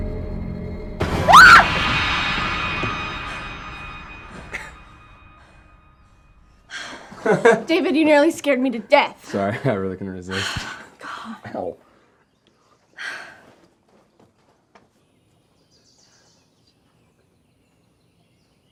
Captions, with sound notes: (Shelby screams) (David chuckles) (Shelby sighs) (David laughing) - David, you nearly scared me to death! - Sorry. I really couldn't resist. - God. - Ow. (Shelby sighs) (birds chirping)